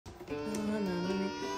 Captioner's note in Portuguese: bebês chorando